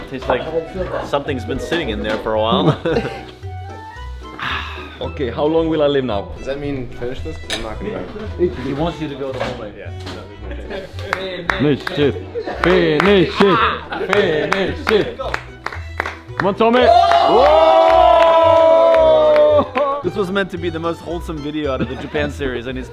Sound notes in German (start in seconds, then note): 11.4 Klatscht; 14.0 Klatschen; 16.7 Jubel